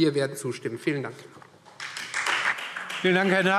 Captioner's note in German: Beifall Freie Demokraten